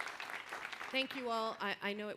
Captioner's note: applause